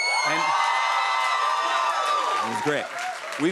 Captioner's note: cheers and applause